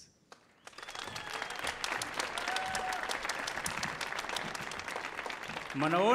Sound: audience cheering and applauding

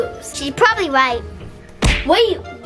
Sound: smack

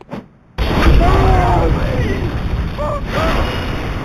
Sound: screaming

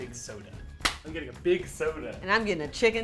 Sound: high-five

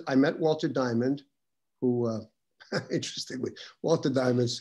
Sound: laughs

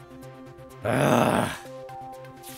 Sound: groaning

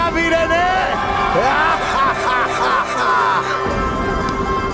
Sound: laughs

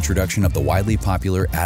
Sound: tv static

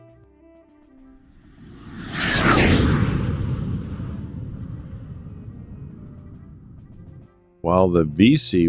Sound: jet Whoosh Sounds

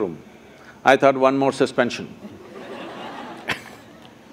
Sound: laughter

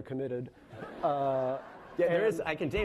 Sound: laughing

